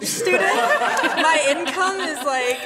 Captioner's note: laughing